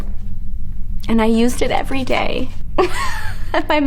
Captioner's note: laughs